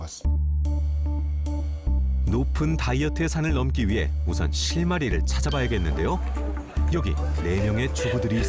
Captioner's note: voiceover